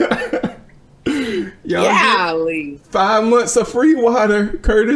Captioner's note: laughing